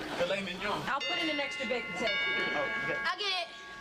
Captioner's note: doorbell chimes